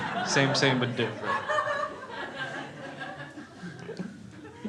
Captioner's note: crowd laughing